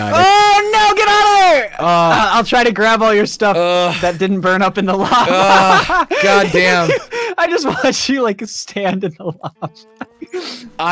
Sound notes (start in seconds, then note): 5.0 laughs